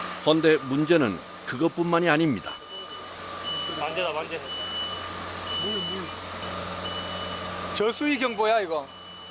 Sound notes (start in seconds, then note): 2.6 beep